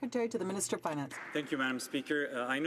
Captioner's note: some Applause